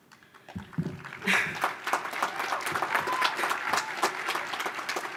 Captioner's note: audience applause